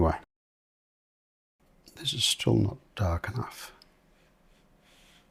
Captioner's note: silence